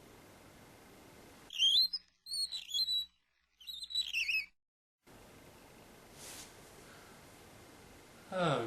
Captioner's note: squeaky wheel being squeeky